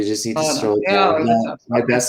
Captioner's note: chatter